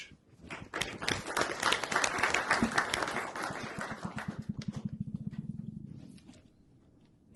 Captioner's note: applause